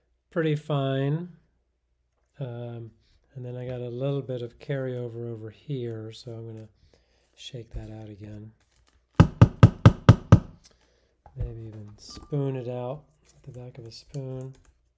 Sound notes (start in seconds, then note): 9.2 grinder thudding